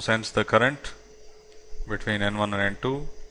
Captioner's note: short circuit